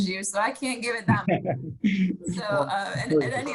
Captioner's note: laughing